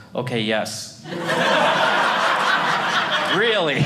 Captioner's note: audience laughing